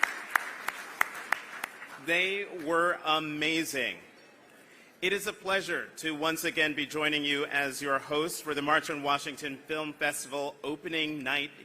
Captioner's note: applause